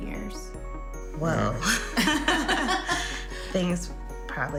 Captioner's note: laughing